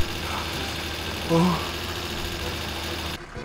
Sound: breathes

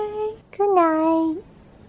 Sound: Rosie voice

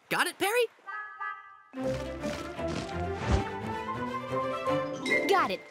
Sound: wings flapping

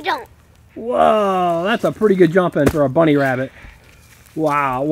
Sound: voiceover

